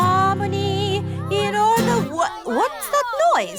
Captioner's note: commotion